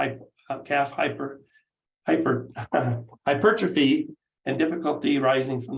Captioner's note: laughs